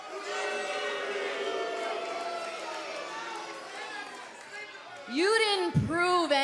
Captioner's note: crowd cheering